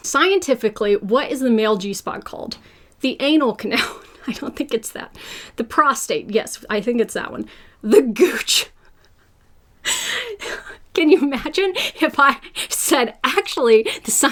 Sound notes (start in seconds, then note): 8.4 laughs